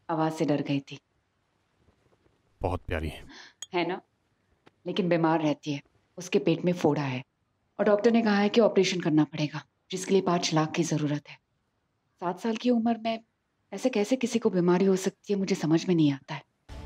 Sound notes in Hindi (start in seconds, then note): none